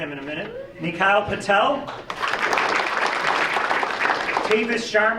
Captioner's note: audience applauding